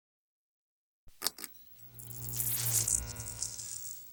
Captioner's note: light clicks, buzzes